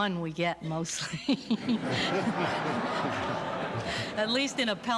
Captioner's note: laughter